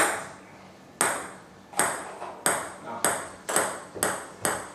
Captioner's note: ball ping pong hitting